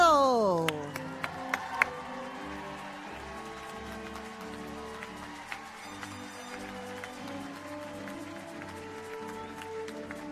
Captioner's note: applause